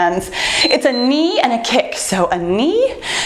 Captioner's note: timer beeps